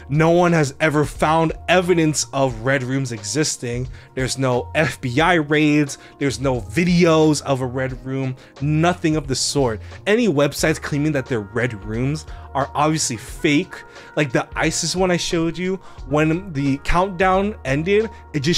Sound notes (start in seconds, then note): none